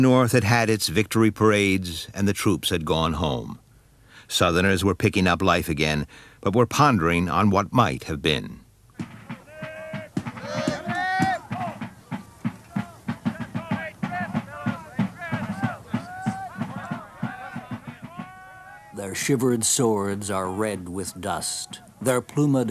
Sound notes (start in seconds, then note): 10.0 rhythmic drumming; 10.0 shouting